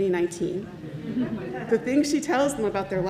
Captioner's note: congregation laughs